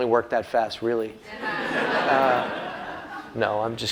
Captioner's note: laughter